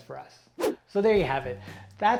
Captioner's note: air whooshing